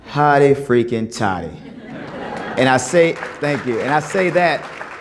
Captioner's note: laughter, applause